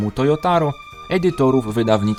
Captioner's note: none